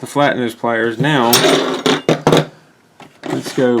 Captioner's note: tools sliding around